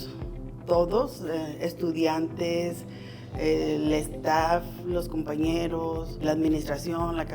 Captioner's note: continues speaking in foreign language